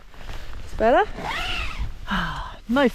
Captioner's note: zipper